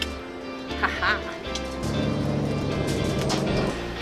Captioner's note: laughs